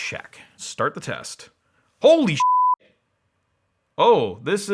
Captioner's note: beep